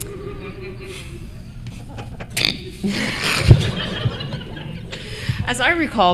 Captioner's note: laughter